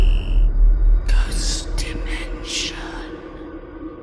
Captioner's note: ghostly Voice